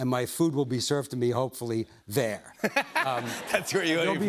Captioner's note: laughs